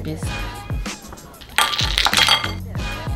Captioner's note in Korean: 얼음 소리